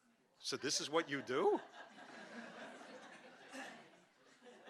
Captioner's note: audience laughing